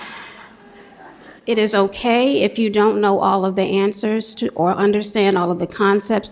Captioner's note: laughter